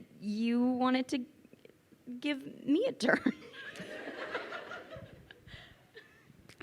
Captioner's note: crowd laughing